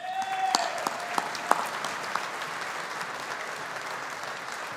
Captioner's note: audience applauding